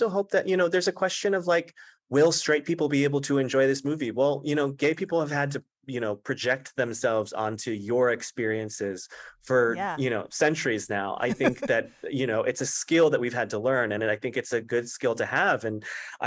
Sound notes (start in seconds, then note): 11.2 laughter